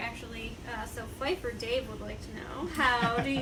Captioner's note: laughs